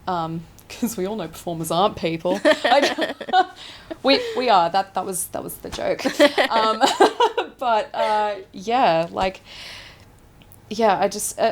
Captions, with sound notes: because we all know performers aren't people. (laughing) We are, that was the joke. But yeah, like, yeah, I just,